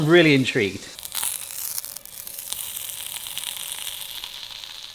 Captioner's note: patty crackling